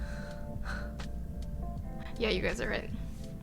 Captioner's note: sighing